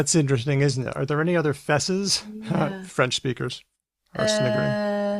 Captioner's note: chuckles